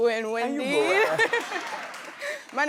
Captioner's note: laughing